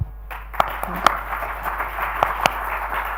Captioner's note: applauding